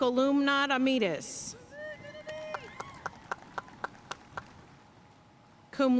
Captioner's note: audience cheering and applauding